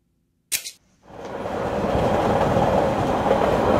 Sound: CPU mouse click; train passing by sound

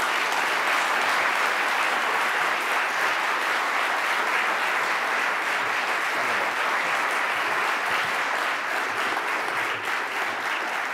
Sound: applause

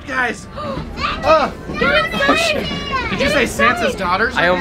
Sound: child screams

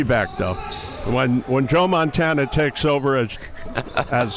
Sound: laughs

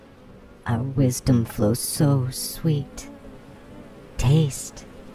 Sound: The Buzzing voices

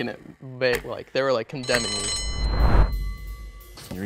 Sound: bell rings

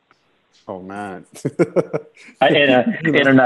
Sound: laughter

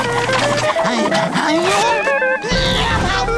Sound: panting; grunting

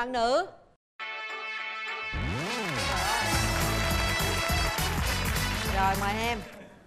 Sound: applause

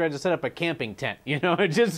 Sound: laughter

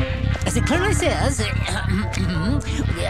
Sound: clears Throat

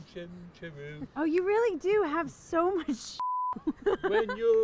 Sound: beep

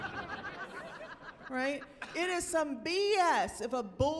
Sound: chuckling

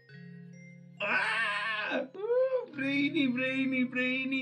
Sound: imitates screaming

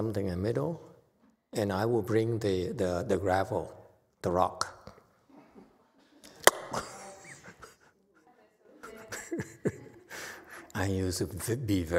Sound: clicks tongue and laughs

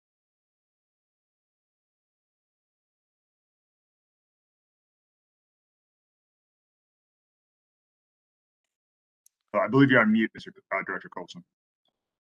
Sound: A pause

